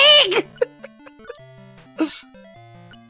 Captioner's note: laughter